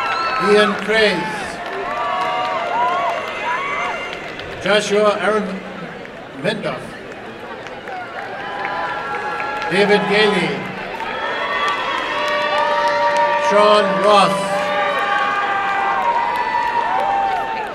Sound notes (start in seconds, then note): 11.4 applause and cheering; 16.0 applause and cheering